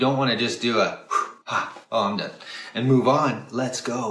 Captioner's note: exhales